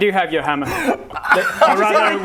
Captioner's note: supportive guffaws